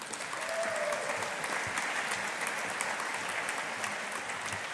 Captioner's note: audience applauding